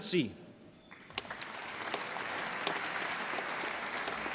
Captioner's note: applause